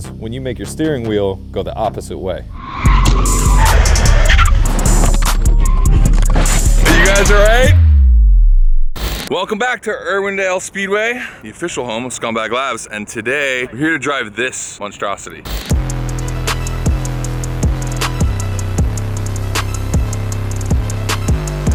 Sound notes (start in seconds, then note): 2.4 car screeches; 2.8 trap music; 15.7 trap music